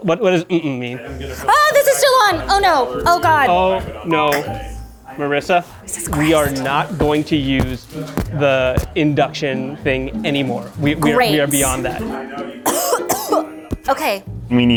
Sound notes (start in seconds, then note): 12.6 coughs